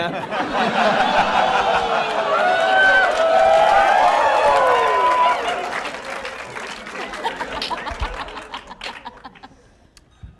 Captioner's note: laughter